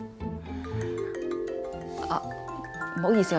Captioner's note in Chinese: 來電鈴聲